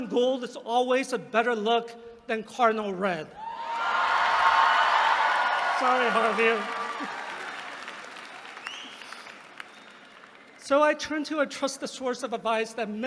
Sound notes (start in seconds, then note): 3.7 applause